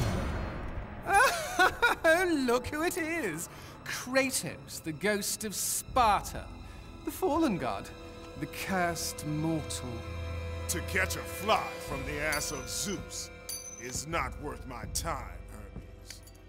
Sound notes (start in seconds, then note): 1.1 laughs